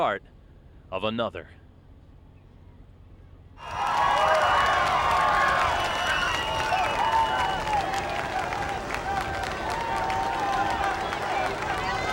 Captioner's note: applause